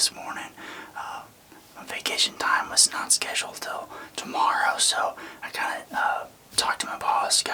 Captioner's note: whispering